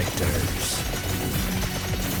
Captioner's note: sound effects play in background